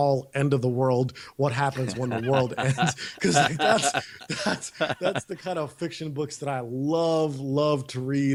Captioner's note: both laughs